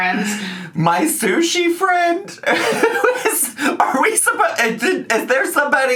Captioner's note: laughs